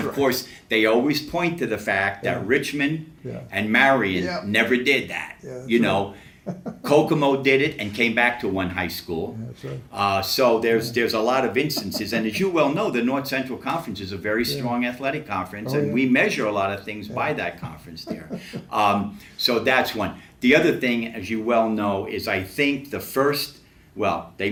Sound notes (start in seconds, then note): 5.4 laughs